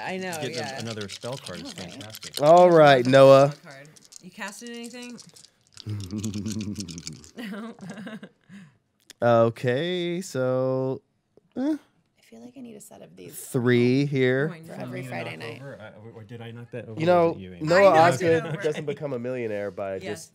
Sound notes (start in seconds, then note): 5.8 chuckling